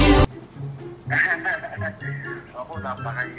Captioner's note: laughing